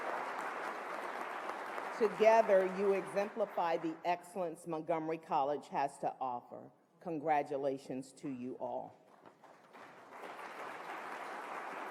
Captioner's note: applause